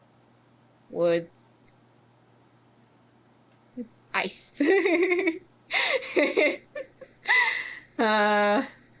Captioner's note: laughs